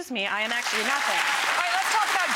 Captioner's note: audience applauding